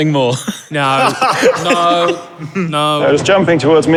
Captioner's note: others laughing